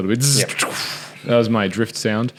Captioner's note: breath hissing and buzzing